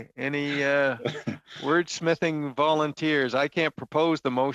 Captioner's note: laughter